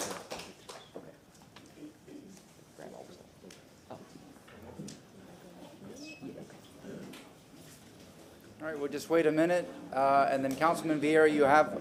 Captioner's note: applause